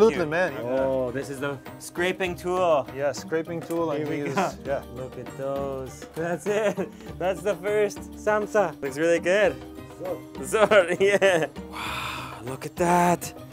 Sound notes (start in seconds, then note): 6.4 laughing; 10.1 foreign language; 10.6 laughing; 11.2 foreign language